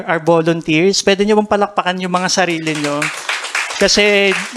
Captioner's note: applause